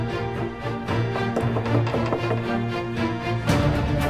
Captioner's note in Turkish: Müzik devam ediyor; Kapı tıklatma sesi